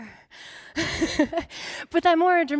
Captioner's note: laughing